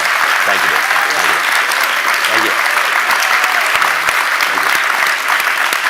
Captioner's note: audience applauding